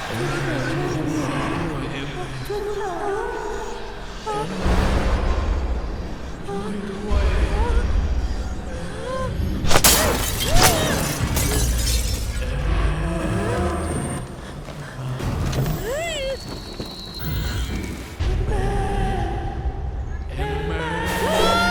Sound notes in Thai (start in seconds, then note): 0.0 เสียงกระซิบดังขึ้นอีกครั้ง; 9.7 เสียงเอ็มเมดทุบกระจก; 11.8 เสียงกระซิบดังขึ้นต่อเนื่อง